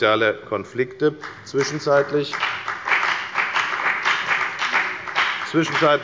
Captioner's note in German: Beifall bei der FDP